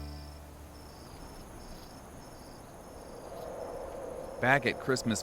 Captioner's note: light wind